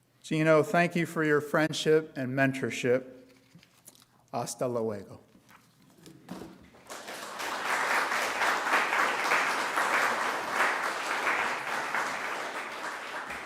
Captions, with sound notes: Geno, thank you for your friendship and mentorship. (speaker speaking in a foreign language) (audience applauding)